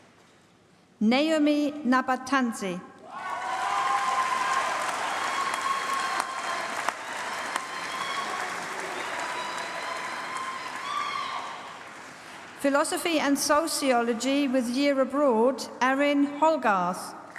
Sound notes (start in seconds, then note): 3.2 applause